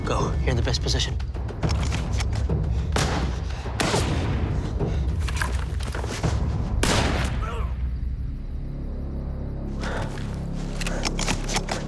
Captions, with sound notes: - Go, you're in the best position. (gunfire) (grunts)